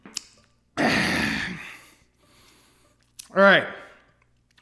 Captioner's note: satisfied sigh